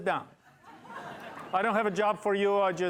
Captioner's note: laughter